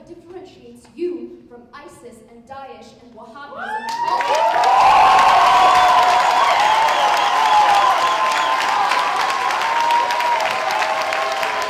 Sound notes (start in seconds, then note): 3.8 applause